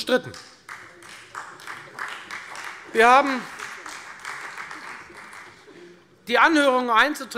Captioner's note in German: Beifall Freie Demokraten